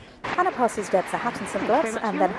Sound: applause

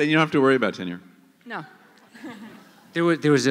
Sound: laughter

